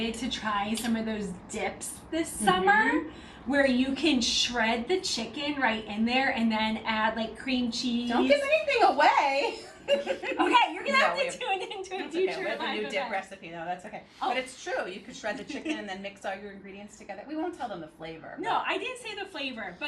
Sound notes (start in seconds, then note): 9.6 both laughing